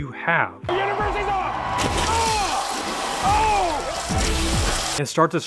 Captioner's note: announcer announcing loudly